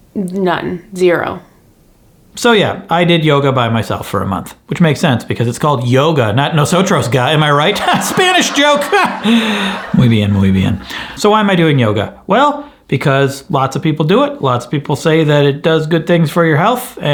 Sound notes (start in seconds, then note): 6.7 audience laughs; 10.1 speaks in foreign language